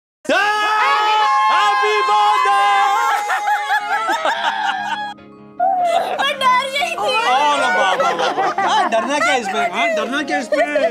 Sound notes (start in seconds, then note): 2.9 laughing